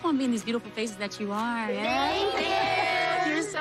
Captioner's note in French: laughs